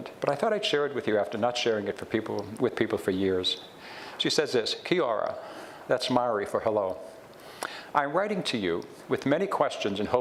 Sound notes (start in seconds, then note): none